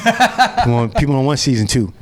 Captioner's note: laughs